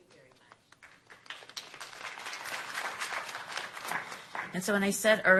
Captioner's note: applause